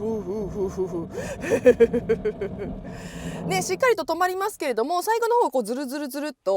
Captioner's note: laughing